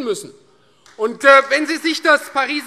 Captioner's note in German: Beifall Freie Demokraten